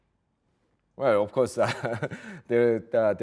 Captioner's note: chuckles